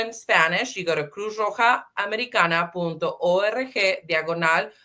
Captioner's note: speaking Spanish